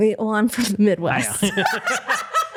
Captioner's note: laughter